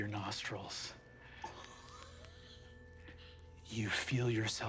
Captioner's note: gasps